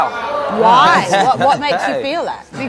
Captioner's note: audience exclaims in disbelief